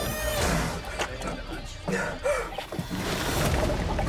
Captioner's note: breathing deeply